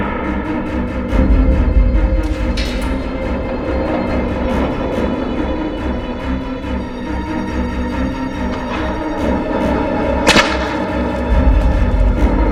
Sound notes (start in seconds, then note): none